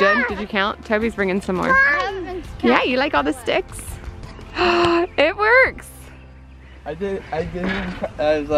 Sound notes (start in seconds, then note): 1.7 youngest child exclaims; 4.5 mom gasps